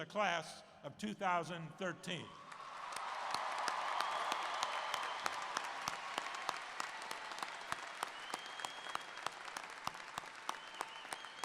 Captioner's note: cheers and Applause